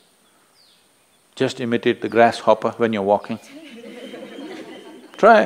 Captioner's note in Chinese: 笑聲